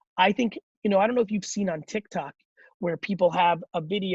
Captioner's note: none